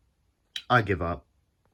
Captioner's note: tch